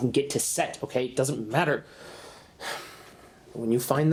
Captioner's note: sighs